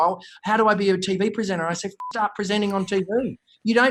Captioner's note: beep